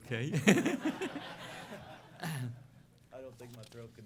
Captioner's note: laughter